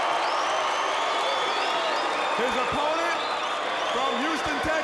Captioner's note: crowd cheering